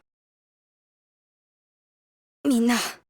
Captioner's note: silence